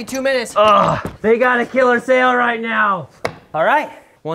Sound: grunts

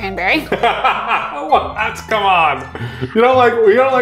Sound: chuckling; laughing

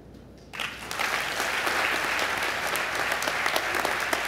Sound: applause

